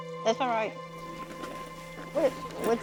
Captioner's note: clattering